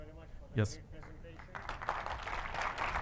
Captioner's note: applause